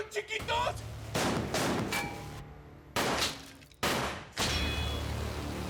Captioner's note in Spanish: continúa la balacera